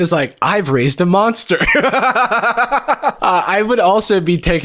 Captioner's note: laughs